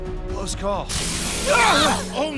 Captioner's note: wincing